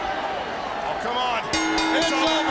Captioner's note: bell ringing